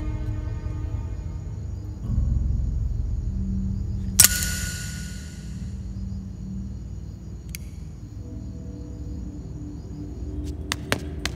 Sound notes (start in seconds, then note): 4.2 empty gun clicks